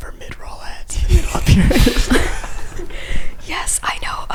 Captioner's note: laughs